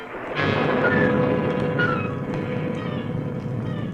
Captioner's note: thunder rumbling